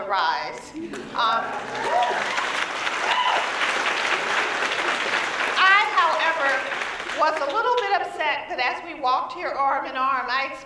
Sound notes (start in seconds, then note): 1.4 applause